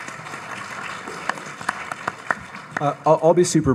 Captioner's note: audience applauds